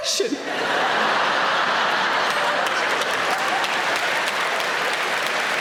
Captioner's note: audience applauding